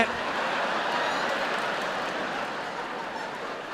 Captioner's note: audience laughing